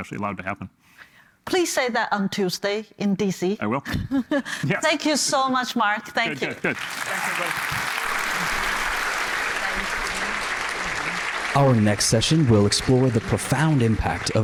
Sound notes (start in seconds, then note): 6.6 applause